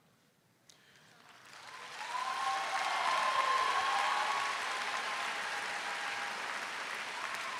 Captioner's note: crowd claps; crowd cheers